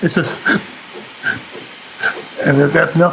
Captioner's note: takes short breathes